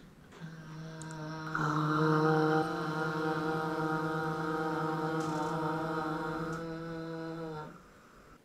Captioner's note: soft sounds of 'ah'